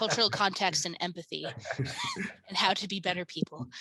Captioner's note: laughing